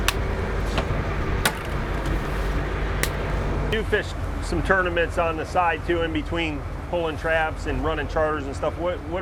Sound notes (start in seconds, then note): 0.2 crack